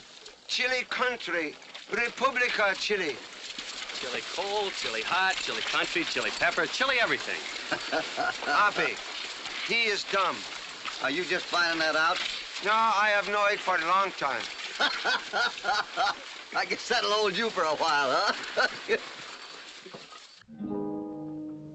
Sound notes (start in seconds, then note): 14.7 hoppy laughter; 20.5 evocative gauchos song